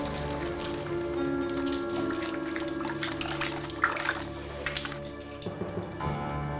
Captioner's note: water running; suspenseful music